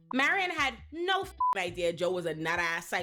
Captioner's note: beep